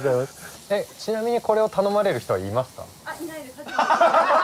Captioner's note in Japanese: 爆笑